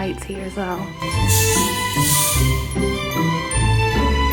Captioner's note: soda fizzing; bubbly music